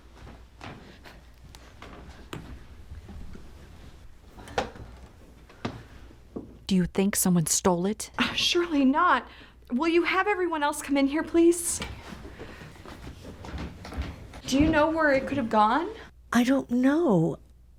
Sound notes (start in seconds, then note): none